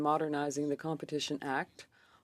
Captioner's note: speaking French